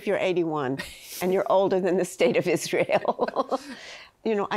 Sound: chuckles

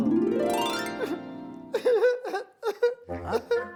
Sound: Ardhavatrao crying

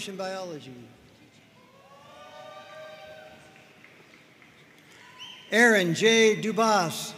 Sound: audience cheering and applauding

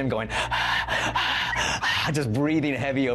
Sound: breathing heavily

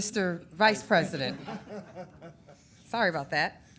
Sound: people laughing

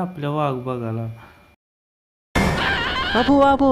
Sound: screaming

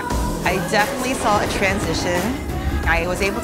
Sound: rollercoaster zooms

